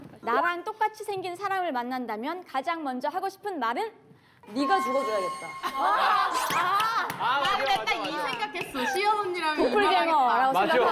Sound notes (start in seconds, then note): 6.3 laughing